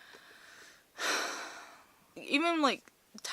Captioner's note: sigh